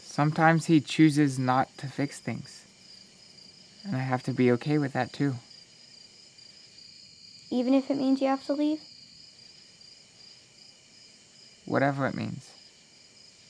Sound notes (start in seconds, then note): 10.2 insects chirping